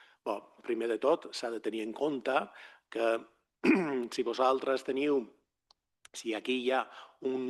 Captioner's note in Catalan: s'aclareix la gola